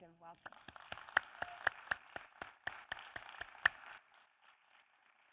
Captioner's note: audience applauding